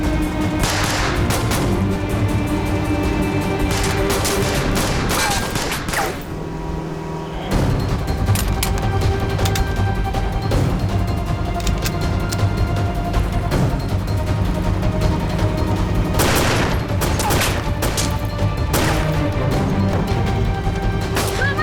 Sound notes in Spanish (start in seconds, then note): 0.6 Disparos; 6.7 Ruido de los aerobotes; 16.1 Disparos